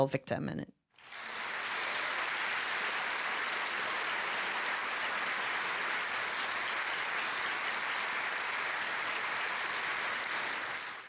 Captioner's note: audience applause